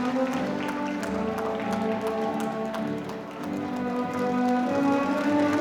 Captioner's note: audience applauding